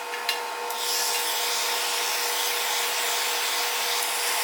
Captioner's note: heat gun whirring